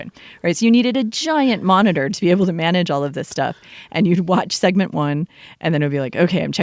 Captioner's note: laughs